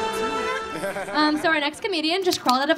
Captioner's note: man laughing